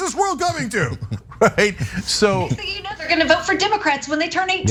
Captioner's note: laugh